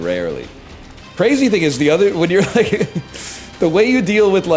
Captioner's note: chuckles